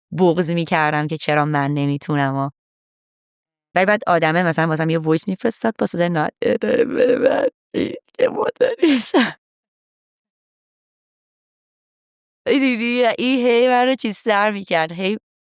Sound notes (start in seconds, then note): 8.8 laughs